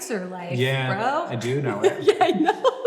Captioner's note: Hank and Grace laugh